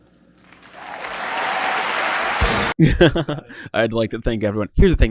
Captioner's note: clapping